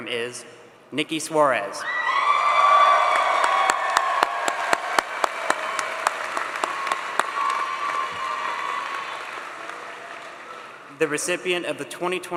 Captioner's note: applause